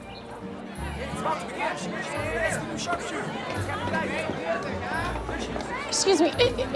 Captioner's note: chattering